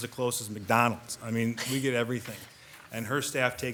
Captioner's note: member chuckles